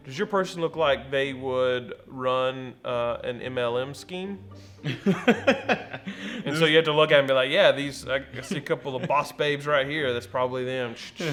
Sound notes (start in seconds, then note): 4.8 laughs